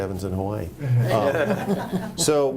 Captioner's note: group laughing